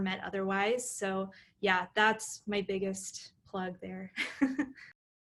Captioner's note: laughter